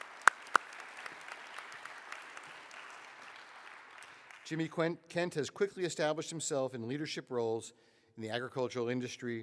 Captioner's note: applause